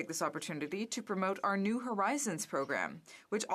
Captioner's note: speaking French